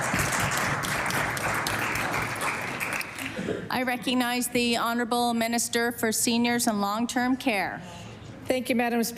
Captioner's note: applause